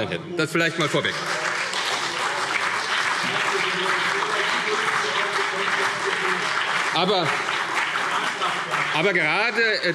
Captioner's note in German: Beifall CDU und BÜNDNIS 90/DIE GRÜNEN